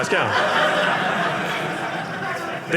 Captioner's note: audience laughing